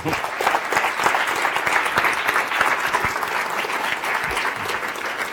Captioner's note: audience applauds